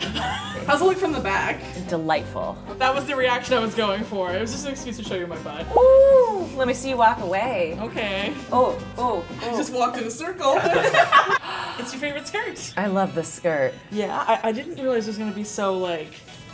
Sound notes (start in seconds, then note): 0.0 laughing; 10.5 laughing; 11.4 gasp